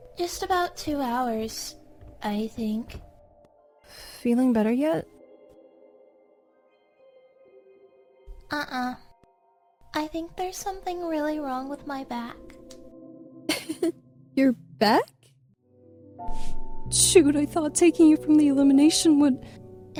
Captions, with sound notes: “Just about two hours. I think…” “Feeling better yet?” "Uh uh.." "I think there’s something really wrong with my back…” [ Chuckles] “Your back?” "Shoot I thought taking you away from the elimination would..-"